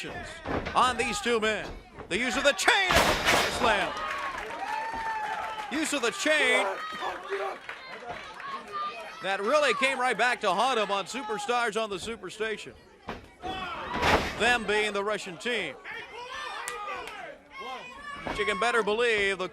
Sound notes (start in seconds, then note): 5.5 crowd cheering; 7.7 crowd chatter; 17.2 crowd chatter